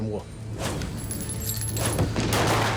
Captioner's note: gun shots